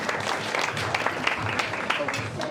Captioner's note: crowd applauding